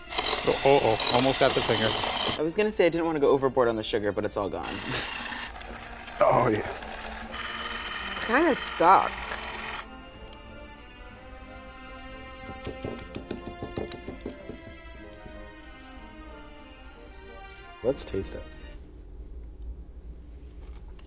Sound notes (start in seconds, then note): 12.4 banging